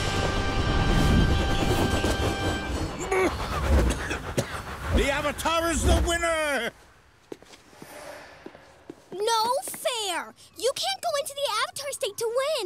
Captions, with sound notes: [whirring] [coughing] The Avatar is the winner! No fair. You can't go into the Avatar State to win.